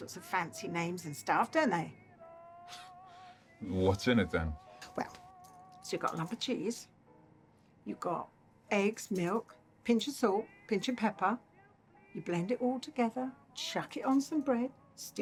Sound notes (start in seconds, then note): 3.7 scoffs